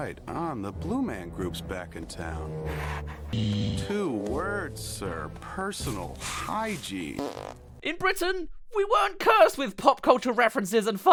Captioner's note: farts